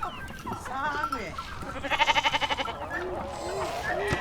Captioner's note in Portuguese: sons de cabras